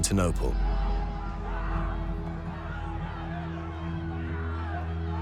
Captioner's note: clamouring